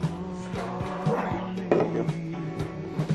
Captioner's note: glass thuds